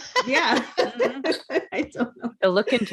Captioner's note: laughing